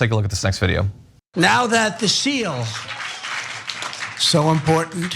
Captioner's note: applause